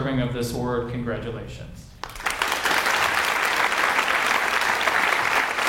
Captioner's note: audience applauds